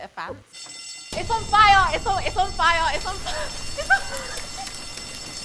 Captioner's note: fire alarm